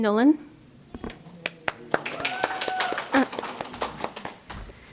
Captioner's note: applause